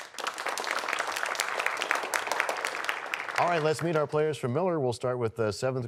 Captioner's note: applause